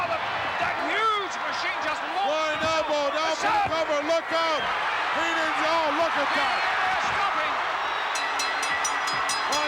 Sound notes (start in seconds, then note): 6.7 audience shouting; 8.1 bell ringing